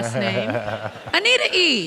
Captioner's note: laughs